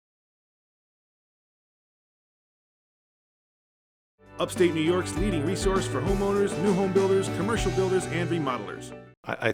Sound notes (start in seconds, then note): 4.4 voiceover